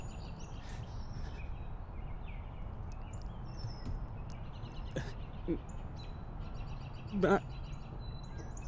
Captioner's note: crying